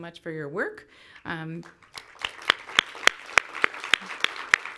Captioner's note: clapping